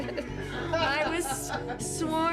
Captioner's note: laughter